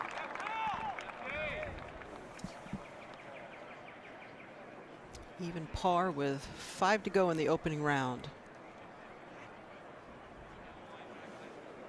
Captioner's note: applause